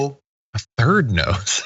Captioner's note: laugh